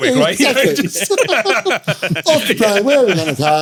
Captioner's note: laughing